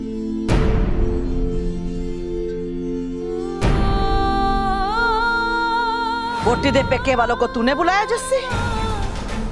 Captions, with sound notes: [emotional vocalising] Did you call the bride's family here, Jassi?